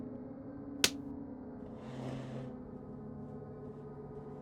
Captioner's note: hand slapping